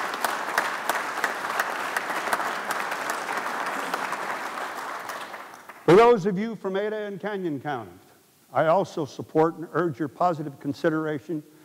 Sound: applause

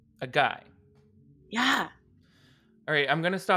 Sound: none

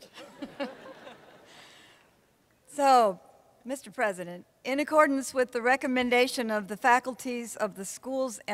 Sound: laughter

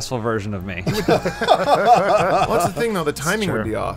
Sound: laughter

